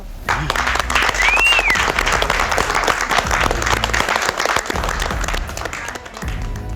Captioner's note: contestants applaud; dramatic rock music